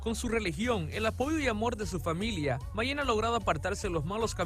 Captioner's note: speaking in Spanish